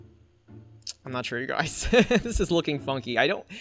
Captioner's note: laughs